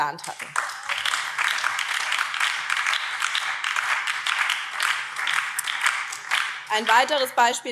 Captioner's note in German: Beifall BÜNDNIS 90/DIE GRÜNEN